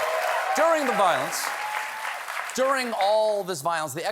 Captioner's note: cheers and applause